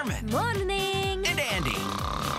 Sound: zzzzzzz

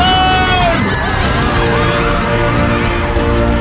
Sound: people screaming

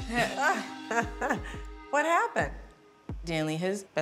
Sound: laughs

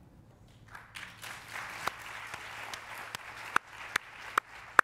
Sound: applause

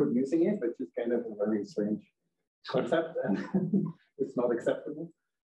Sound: chuckles

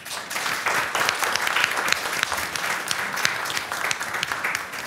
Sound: applause

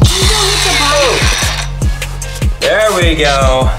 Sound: whirring

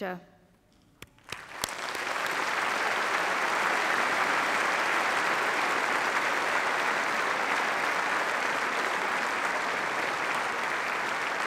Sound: applause

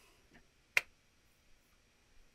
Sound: slaps thigh

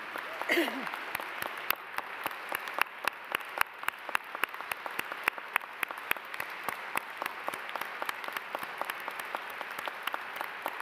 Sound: applause

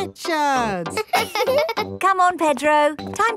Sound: chuckles; both laughing

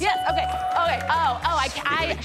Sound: stammers

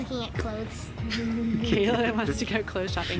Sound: people laughing

